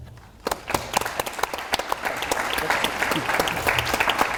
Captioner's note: audience applauds